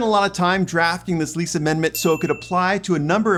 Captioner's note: chime sounds